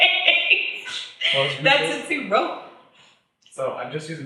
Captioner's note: laughs; faintly speaks